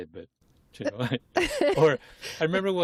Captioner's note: laughter